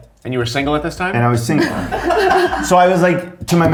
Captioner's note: all laughing